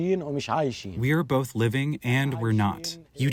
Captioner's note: through translator